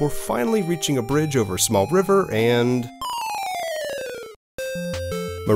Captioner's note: chime